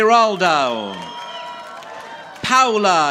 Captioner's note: audience applauding